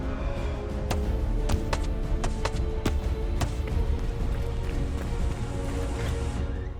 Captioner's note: thudding